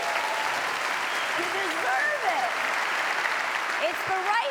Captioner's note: audience applause